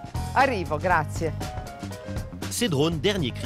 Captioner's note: speaks in Italian